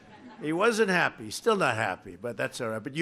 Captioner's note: laughter